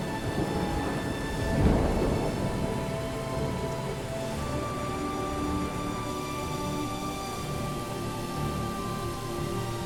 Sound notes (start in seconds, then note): 0.0 thunder rolling; 4.2 rain falling; 6.8 dramatic music